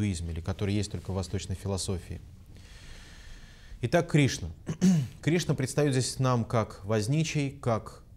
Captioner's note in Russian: откашлялся